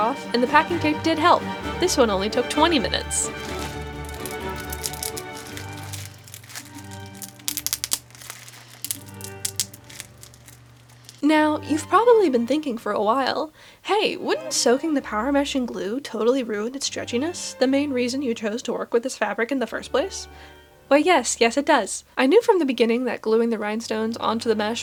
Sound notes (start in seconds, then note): 7.0 sound of glue peeling and music